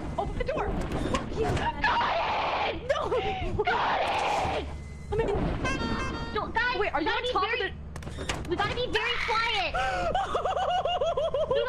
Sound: screams

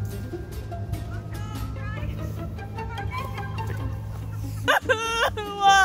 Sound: laughing; talking in the distance

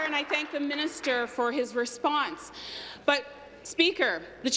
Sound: applause

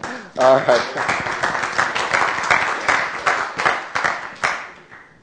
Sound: applause

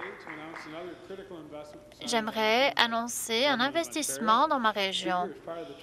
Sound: applause

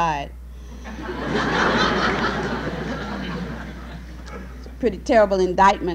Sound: laughter

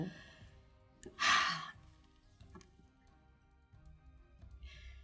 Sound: sighs

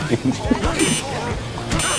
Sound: beep

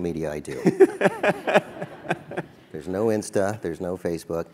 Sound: laugh

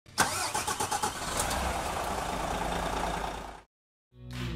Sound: coach engine starts

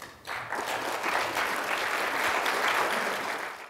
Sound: audience clapping

